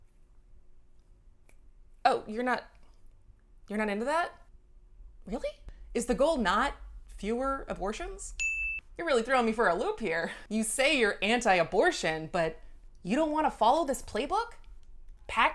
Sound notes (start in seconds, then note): 8.4 bell chimes